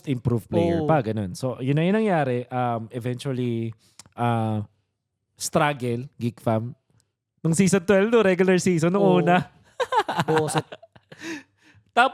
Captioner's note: laughs